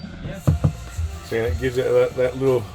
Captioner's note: drilling; cupboard thumping